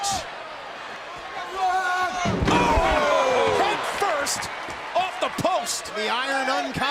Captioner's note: applause